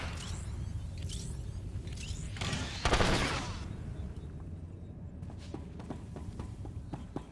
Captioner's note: gunshots